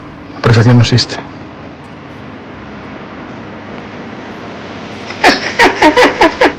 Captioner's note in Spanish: risas